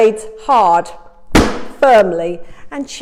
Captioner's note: banging loudly